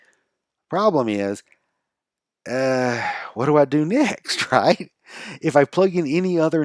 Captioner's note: sighs